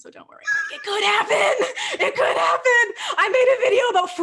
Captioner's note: laughing